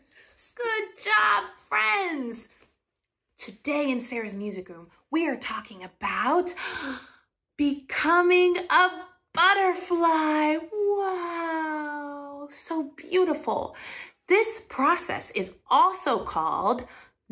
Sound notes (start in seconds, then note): 6.5 gasp